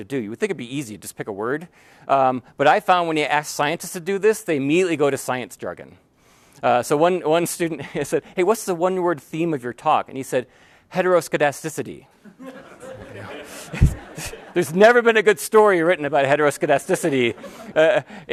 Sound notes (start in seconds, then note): 12.2 laughter; 13.0 sigh; 17.7 laughter